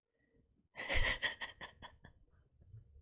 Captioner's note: laughs